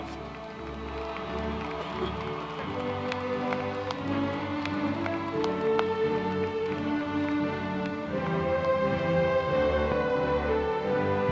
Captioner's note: applause